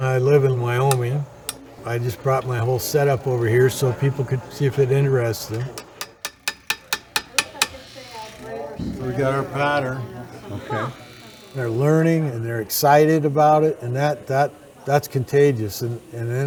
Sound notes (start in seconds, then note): 5.4 hammering